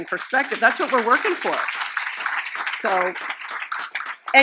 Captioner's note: audience Applauses